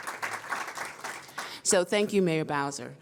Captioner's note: applause